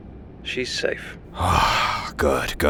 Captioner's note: KIA sighs in relief